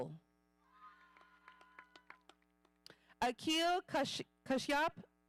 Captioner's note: audience applauding